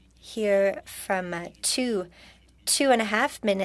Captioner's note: speaking French